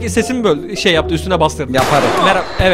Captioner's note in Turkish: silah sesi